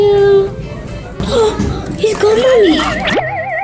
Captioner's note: futuristic zapping; gasps